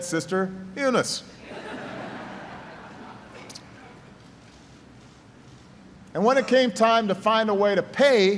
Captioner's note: laughter; laughter